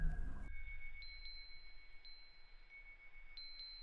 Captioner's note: chimes ringing